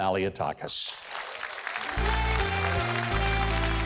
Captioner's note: audience applause; jazzy music